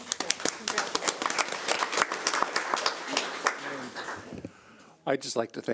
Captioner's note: audience applauds